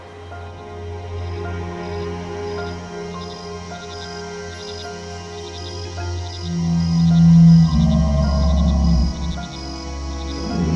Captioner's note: night sounds; growling